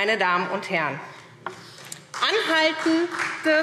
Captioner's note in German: Beifall SPD